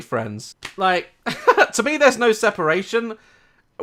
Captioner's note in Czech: smích